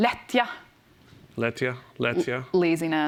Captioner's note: speaking swedish